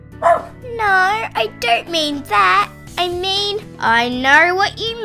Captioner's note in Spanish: Ladrido